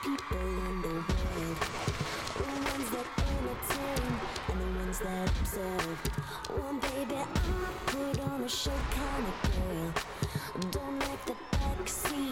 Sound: cheers and applause

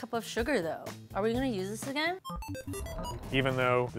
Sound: electronic beeping

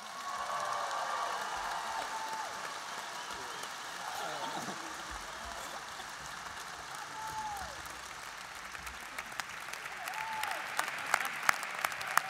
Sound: applause

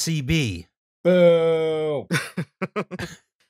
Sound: laughter

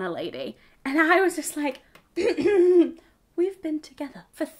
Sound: clears throat

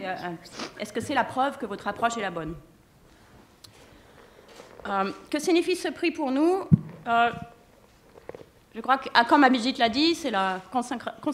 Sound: speaking french

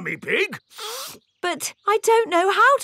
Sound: sniffs

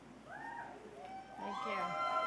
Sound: cheers

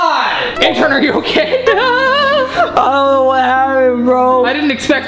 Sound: laughing

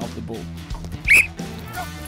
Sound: whistle

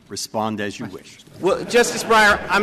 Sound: laughter

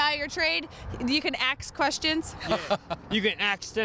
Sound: laughing

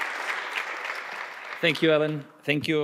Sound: audience applauding

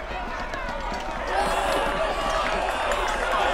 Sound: crowd gets more excited

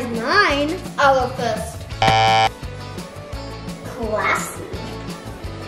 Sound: beeps buzzer

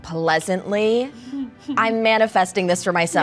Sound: laughing

